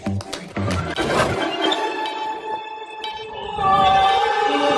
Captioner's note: beeping sound